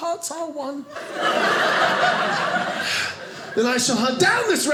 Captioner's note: audience laughing